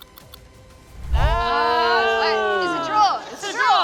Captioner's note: hosts exclaim